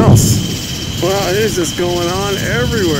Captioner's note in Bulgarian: силни бумове